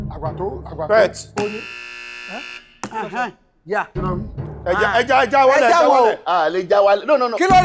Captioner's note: buzzer sounds